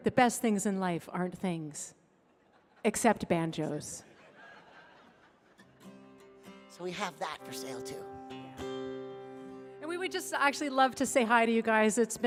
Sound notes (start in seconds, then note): 4.0 audience laughing; 5.6 guitar strumming